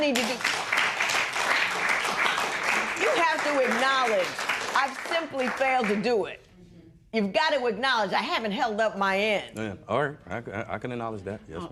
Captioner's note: applause